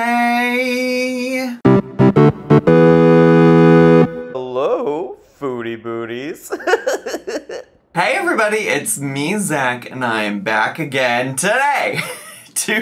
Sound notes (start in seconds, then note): 1.6 upbeat music; 6.4 laughs